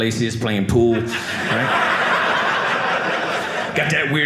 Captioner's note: audience laughing